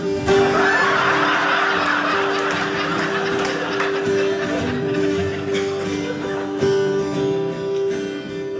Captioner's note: audience laughing